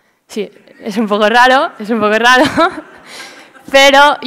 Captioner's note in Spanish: risas